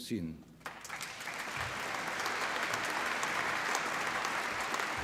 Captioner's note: applause